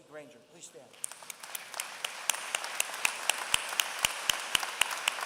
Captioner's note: applause